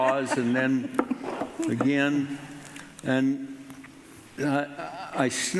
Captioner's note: knocks on table